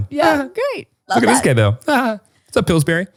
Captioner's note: laughs